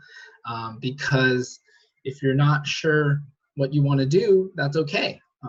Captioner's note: chuckles